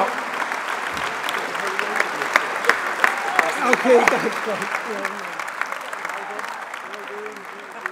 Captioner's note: applause